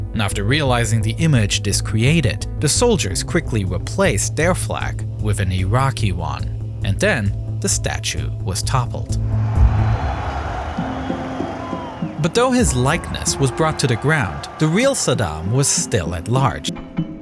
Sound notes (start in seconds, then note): 9.2 crowd cheering